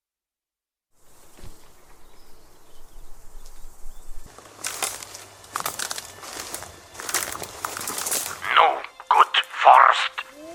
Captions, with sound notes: [Forest atmosphere / cracking surface] No good forest.